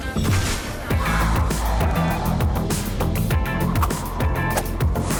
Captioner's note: teleporting sound that sounds like a small explosion and/or sci-fi gun blast; more quiet mutated monster snarls; more light swooshing sounds